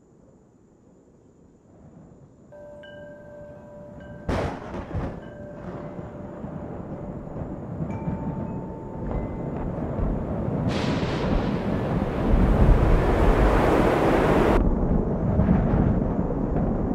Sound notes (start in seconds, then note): 4.2 thunder; 12.9 wind blowing